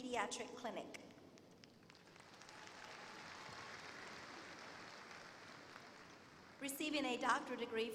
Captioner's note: applause